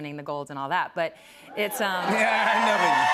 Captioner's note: cheers and applause